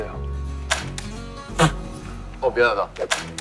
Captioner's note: laughing!